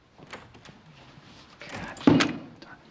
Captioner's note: door opens and closes